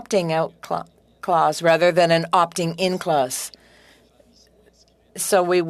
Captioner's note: speaking French